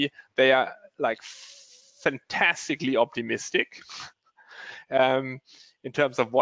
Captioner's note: chuckles